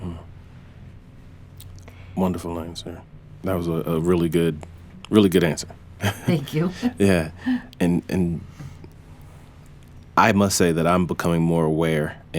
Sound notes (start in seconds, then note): 6.0 laughs